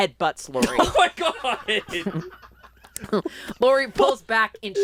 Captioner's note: laughs